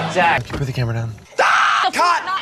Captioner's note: screams